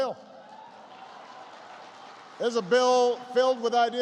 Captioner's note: applause